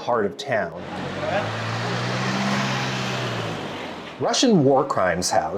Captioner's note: car rumbling